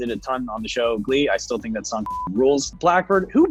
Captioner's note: beep